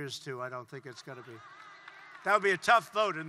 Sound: applause

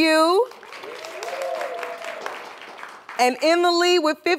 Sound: cheers and applause

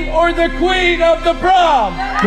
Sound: cheering

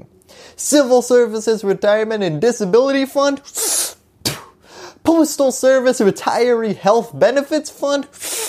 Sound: suck spit; suck spit

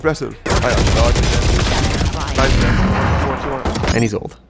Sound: gun fires

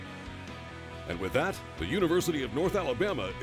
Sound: voiceover

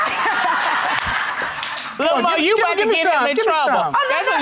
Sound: laughing

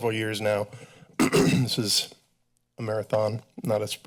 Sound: clears throat

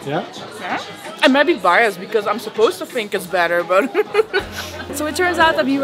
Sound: giggles

